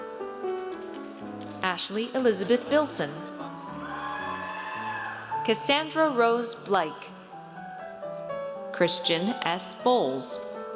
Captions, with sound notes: Ashley Elizabeth Bilson. (audience cheers) Cassandra Rose Bleick. Christian S. Bowles.